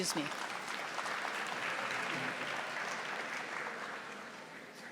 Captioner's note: audience applauding